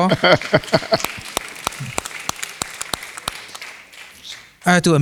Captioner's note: applause